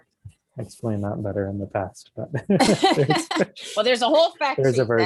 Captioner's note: laughs